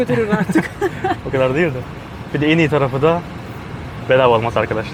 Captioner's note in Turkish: kahkaha